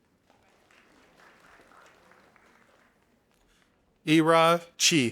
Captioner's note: audience applauding